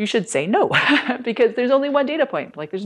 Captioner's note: laughter